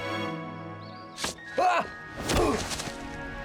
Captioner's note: grunting